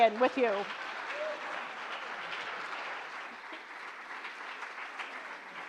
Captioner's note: audience applauding